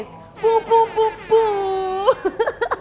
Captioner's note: club horns